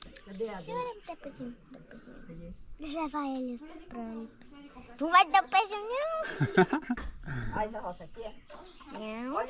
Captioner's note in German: gelächter